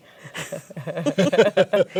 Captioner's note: laughter